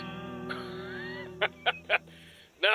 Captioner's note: wheeze